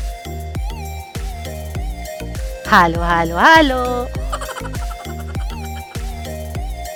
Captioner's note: laughing